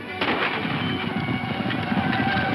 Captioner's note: dramatic music; gun firing